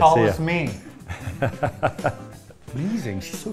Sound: laughs

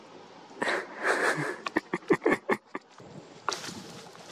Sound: my husband laughing at me

